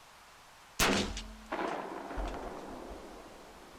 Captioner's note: gun shot